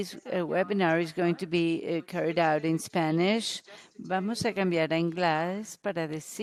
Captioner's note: in Spanish